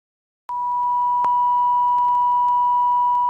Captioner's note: beeping